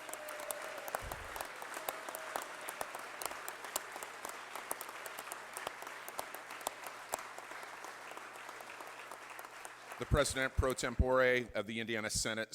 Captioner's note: applause